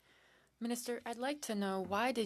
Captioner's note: speaking French